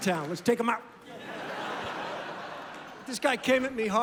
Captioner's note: laughter